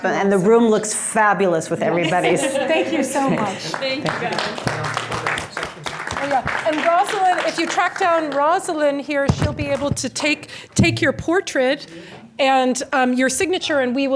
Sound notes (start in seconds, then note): 5.3 applause